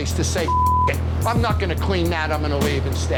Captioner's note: beep